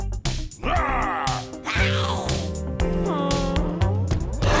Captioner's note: hisses